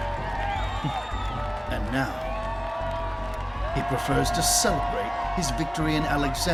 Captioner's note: chuckles